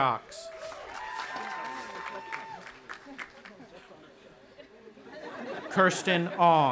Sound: audience applauding and cheering

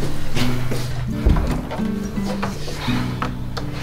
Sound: door opening

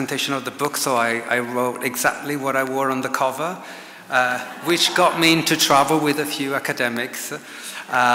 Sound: audience laughs

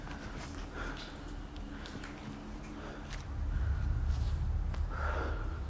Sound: panting

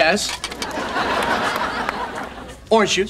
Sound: audience laughing

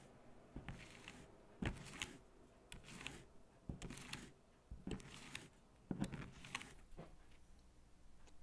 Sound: swiping

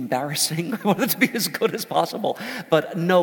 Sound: laugh

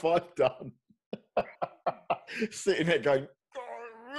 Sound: laughs

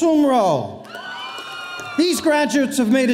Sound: audience cheering

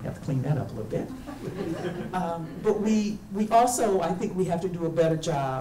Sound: audience laughing

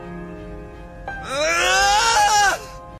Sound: scream of agony

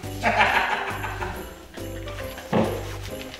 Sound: laughing

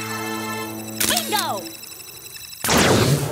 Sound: camera flashing

